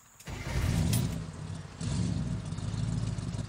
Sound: engine roaring

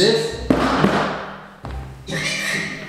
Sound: loud banging

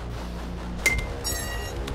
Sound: metallic impact

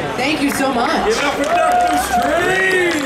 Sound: audience cheering

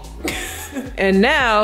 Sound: laughing

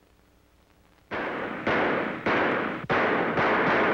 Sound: gunshots

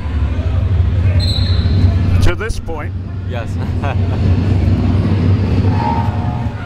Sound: laughs

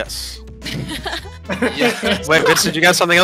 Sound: laughing

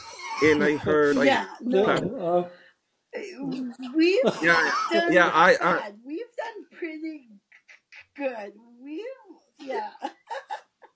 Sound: laughs

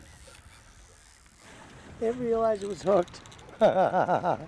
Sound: reel spinning

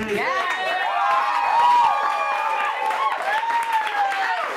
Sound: audience cheering

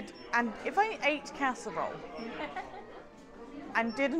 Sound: laughs

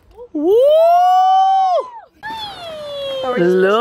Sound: cheering

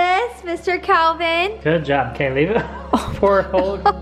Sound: chuckles

